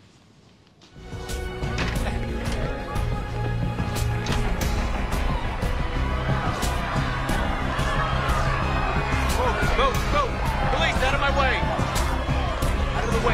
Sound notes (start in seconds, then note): 0.7 intense music; 3.1 crowd chatters